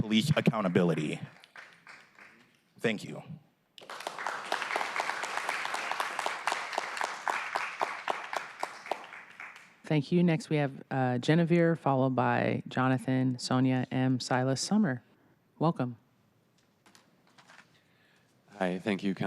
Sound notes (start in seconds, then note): 5.4 applause